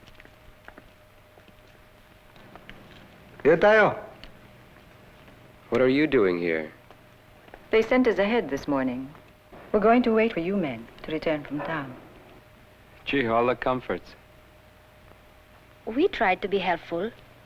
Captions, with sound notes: [NON-ENGLISH SPEECH] What are you doing here? They sent us ahead this morning. We're going to wait for you men to return from town. Gee, all the comforts. We try to be helpful.